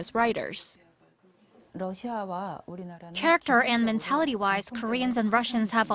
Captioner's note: Korean